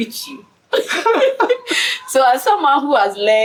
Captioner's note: laughs